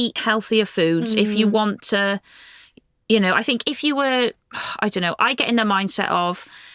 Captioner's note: sighs